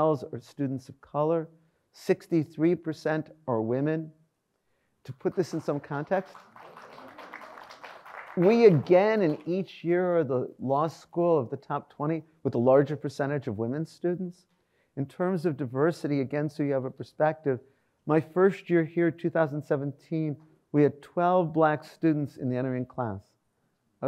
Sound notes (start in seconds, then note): 5.3 audience applauds